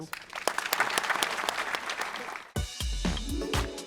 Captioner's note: applause